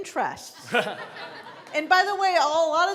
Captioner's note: laughing